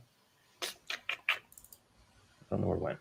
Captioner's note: mouth clicking